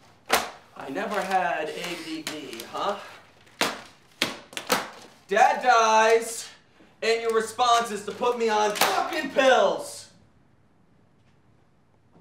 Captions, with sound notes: [paper thwacking] I never had ADD, huh? [papers rustling] Dad dies and your response is to put me on fucking pills! [papers slamming on counter]